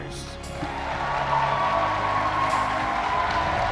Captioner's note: crowd cheering